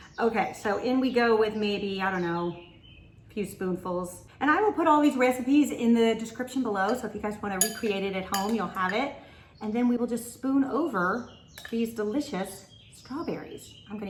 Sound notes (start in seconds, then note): 8.3 spoon clicking